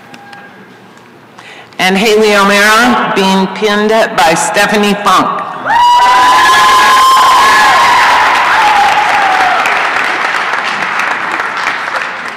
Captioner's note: applause and cheering